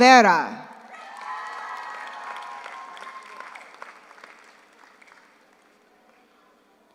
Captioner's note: audience applauds; audience cheers